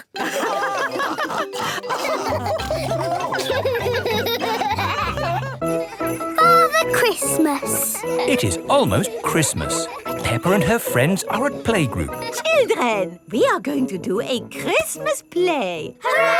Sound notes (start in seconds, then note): 0.0 all laughing; 3.4 laughs